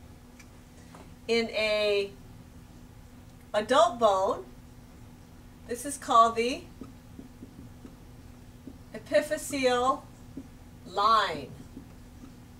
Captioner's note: pause